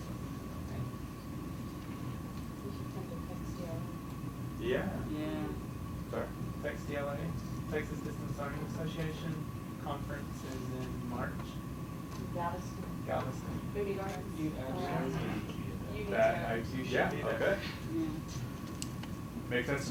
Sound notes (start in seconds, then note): 4.5 audience murmuring; 14.7 audience talking